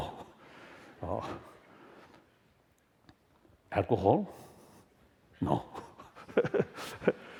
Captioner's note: laughter